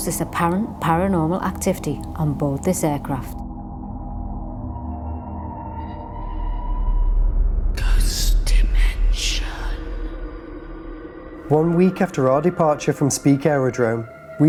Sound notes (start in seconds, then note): 8.3 ghostly Voice